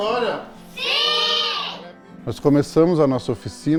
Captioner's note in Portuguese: crianças em coro